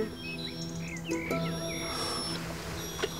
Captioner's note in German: Winseln